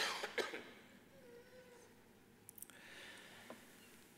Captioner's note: man coughs